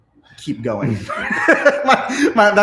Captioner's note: all of them laughs